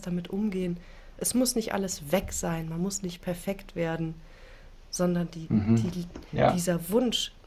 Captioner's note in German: räuspern